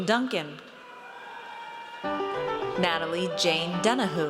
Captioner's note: audience cheers